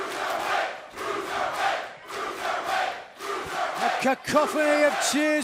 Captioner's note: crowd cheering